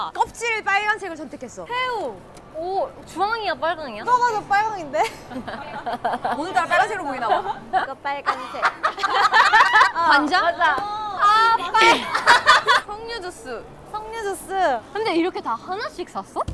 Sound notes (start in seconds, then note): 5.0 laughing